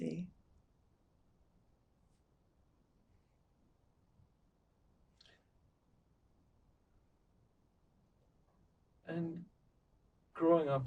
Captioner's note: pauses 8 seconds